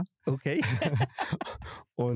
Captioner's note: alle lachen